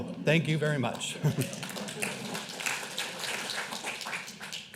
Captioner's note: clapping